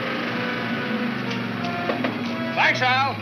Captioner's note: tapping on window